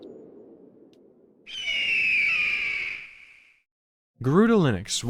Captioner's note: eagle cawing sound